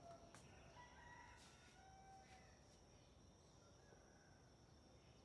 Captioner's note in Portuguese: canto de galo